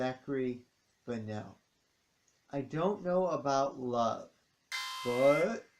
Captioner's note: alarm sounds